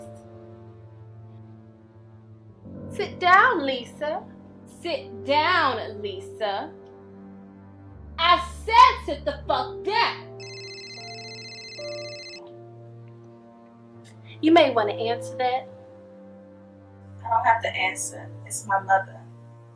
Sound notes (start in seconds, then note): 0.1 dramatic music; 10.4 cellphone ringing; 12.2 dramatic music